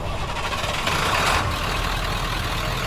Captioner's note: engine wheezes; engine rattles; engine purrs